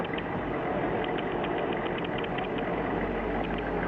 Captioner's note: engine rumbling